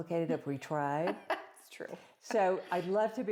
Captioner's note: laughs